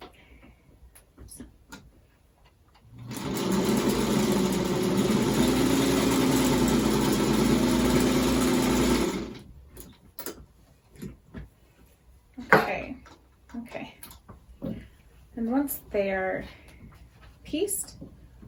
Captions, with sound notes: (sewing machine whirring) Okay. Okay. Then once they are pieced,